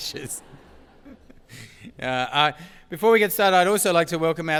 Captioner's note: laugh